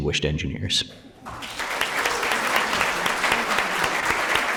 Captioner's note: applause